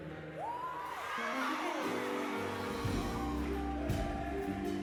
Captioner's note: crowd cheering